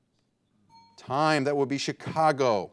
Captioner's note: bell dinging